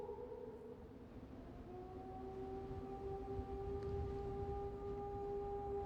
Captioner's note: wolf howls